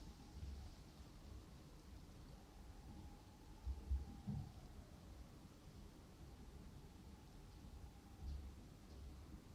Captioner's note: another ambulance sound today